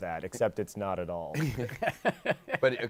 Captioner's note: laughter